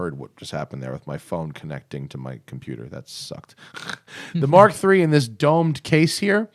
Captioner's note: giggles